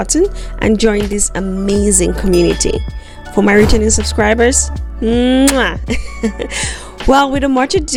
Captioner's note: blows kisses